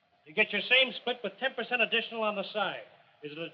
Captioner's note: none